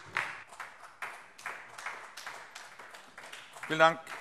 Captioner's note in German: Beifall AfD